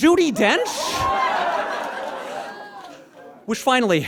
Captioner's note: audience laughs